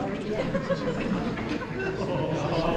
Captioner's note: audience Laughing